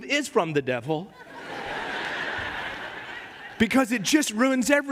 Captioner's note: risas de la congregación